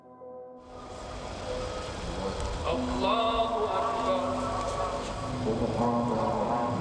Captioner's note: worshipers chanting in foreign language